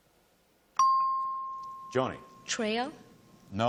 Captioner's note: ping